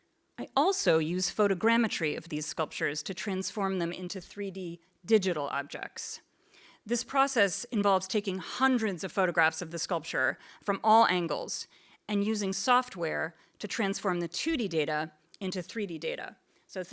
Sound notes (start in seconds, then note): none